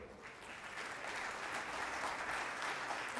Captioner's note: applause